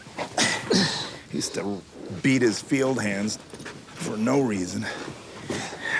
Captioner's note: grunts